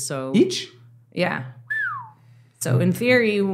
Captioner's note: whistles